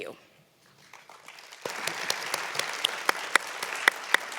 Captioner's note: applause